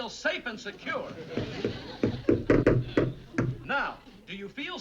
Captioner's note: hammering